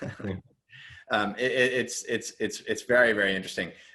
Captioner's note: chuckles